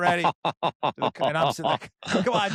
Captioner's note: laughs